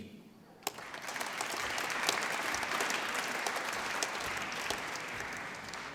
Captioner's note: applause